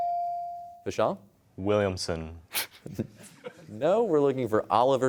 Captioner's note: chuckles